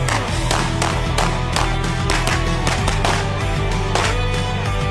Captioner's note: gunshots banging continues